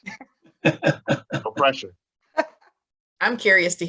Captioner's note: laughs